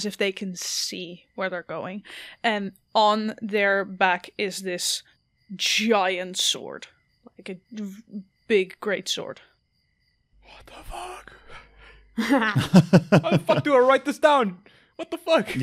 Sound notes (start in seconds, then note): 9.6 whispering; 12.2 laughter